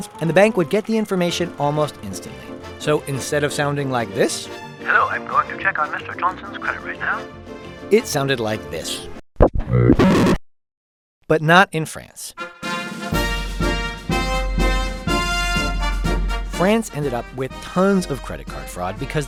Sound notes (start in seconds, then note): 9.7 beep boop warble warble